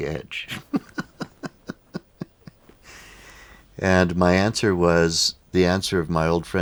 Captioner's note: laughs